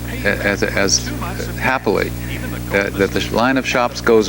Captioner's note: speaks faintly